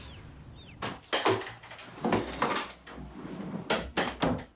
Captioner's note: keys jingling; door thudding